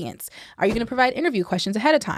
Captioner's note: whooshing